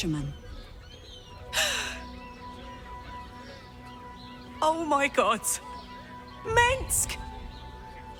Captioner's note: gasps